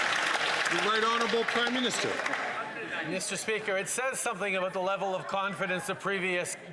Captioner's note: some Applause